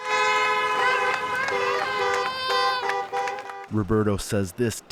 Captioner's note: cheering